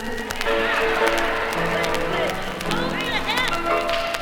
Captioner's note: audience cheers